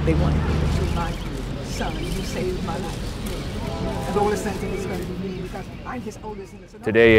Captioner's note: background chatter